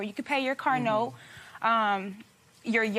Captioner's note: none